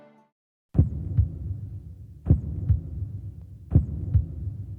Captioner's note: heartbeat sounds